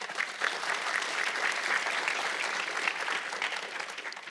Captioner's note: audience clapping